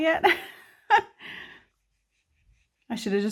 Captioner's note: laughs